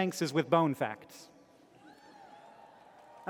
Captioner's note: cheering